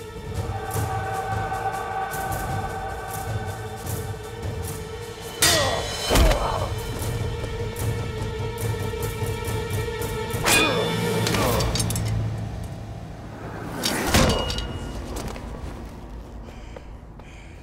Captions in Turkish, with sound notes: Aaaa! Ahh! Ahh! (Kılıç sesi) Ahh!